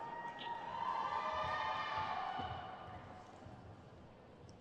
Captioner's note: crowd cheers